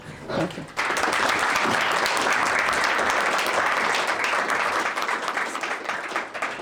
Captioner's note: applause